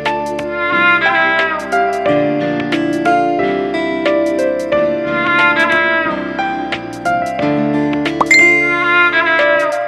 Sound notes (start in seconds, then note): 8.2 Notification tone